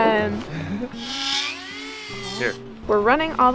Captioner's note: drill whirs